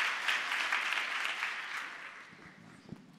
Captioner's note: applause